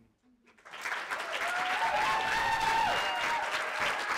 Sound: audience applauding

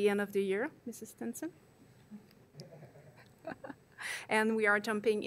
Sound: laughs

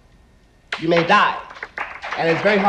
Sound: audience applauding

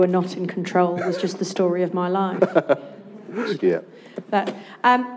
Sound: laughs

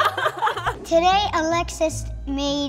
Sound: laughs

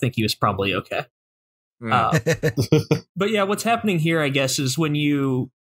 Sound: laughter

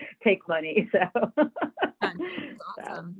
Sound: laughs

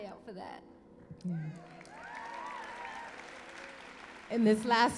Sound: applause

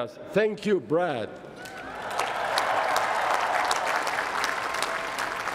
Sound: cheering

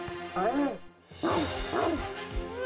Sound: barking

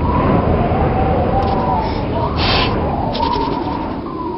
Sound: blows

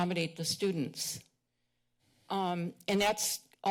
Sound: pause

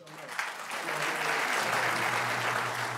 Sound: audience applauding; motor humming as screen retracts and applause continues

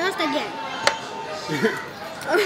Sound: haha

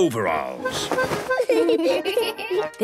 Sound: giggling

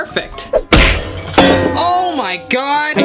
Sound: bang

